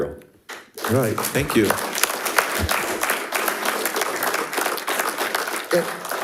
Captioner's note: audience applauding